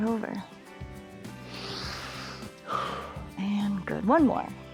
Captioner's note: inhales and exhales